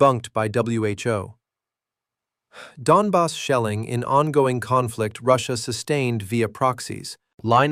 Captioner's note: exhales sharply